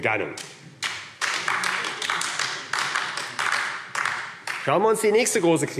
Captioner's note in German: Beifall AfD